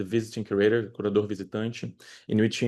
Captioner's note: speaking spanish